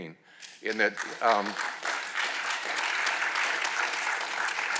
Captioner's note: attendees clapping